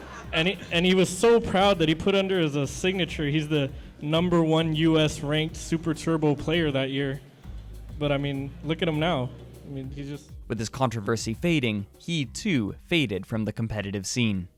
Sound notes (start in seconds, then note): 4.0 sarcastic